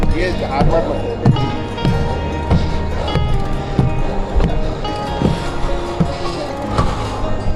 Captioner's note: rough breathing due to lack of exercise